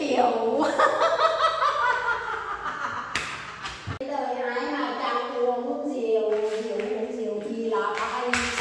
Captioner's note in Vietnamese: Tiếng cười